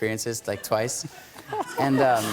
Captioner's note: laughter